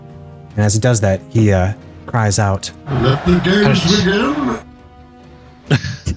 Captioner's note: bane voice